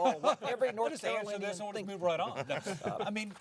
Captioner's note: laughing